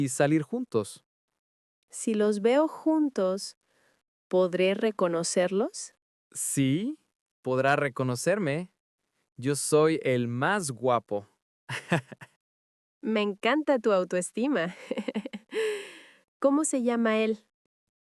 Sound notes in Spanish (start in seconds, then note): 14.7 risas